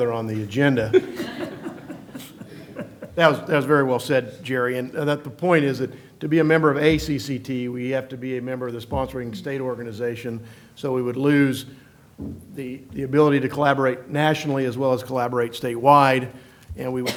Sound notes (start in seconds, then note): 0.8 laughter